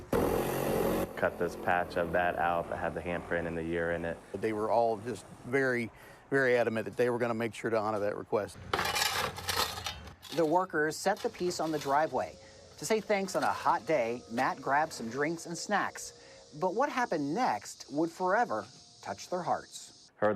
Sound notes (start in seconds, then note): 0.0 tool whirring; 8.7 shovel clanking